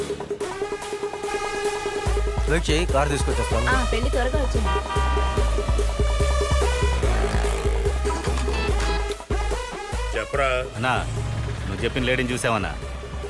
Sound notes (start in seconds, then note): 8.0 phone rings